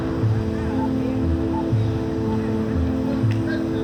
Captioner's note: distant chattering